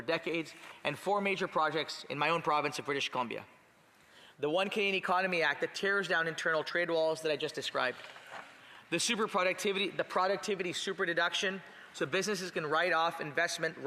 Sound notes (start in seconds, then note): none